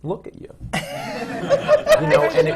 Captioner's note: laughter